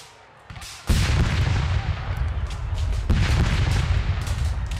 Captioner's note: cannon and gunfire